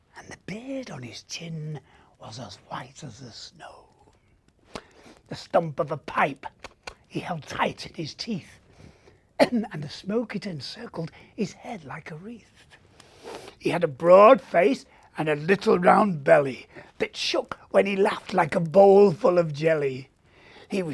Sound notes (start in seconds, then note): 6.5 smacking lips loudly; 9.4 coughing lightly